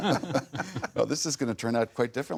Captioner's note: laughter